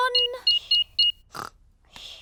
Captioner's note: beeping